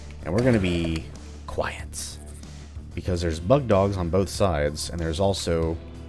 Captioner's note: whispers